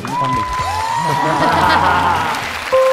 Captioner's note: laughing